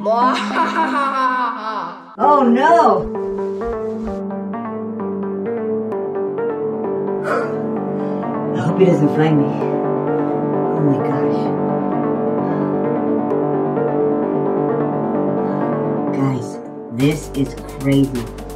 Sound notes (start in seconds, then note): 3.2 panting